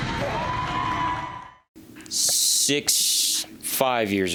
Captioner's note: cheer